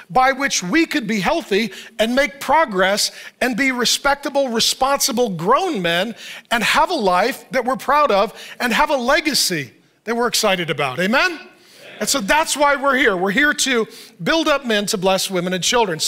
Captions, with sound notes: by which we could be healthy and make progress and be respectable, responsible grown men, and have a life that we're proud of, and have a legacy that we're excited about. Amen? (congregation assents) And so that's why we're here. We're here to build up men to bless women and children.